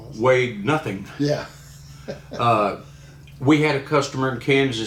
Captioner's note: laughing